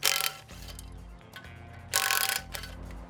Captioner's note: whirring